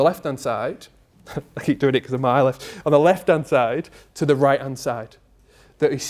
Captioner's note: laughs